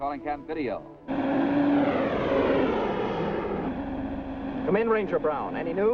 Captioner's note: vehicle whooshes